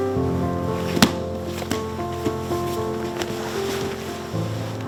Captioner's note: men thudding